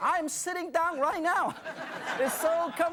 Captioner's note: audience laughs